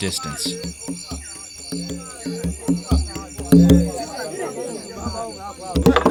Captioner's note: light drumming; villagers talking in Lingala